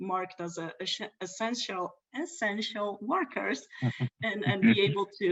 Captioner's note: laughs